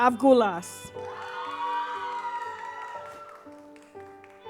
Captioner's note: audience cheers